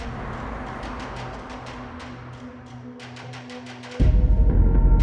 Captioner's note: soft ominous music; car passing; chilling beat